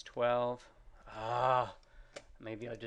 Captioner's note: instructor grunts